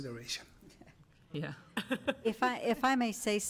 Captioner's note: laughs